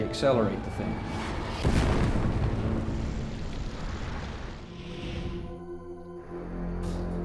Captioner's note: explosion